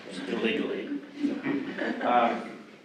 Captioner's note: audience chuckles